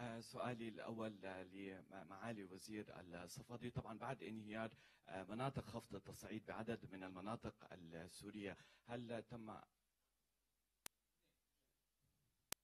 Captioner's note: speaks in Arabic